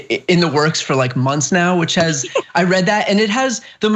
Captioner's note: laugh